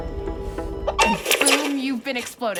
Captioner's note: sound of video game